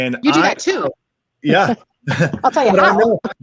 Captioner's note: laughs